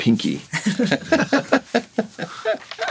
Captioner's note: all laughing